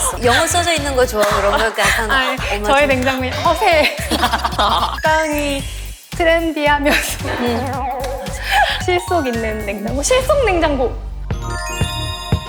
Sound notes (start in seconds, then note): 6.9 holds in laughter